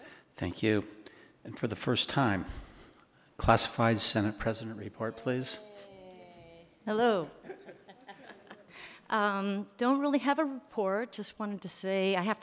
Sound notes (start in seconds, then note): 7.4 attendees chuckling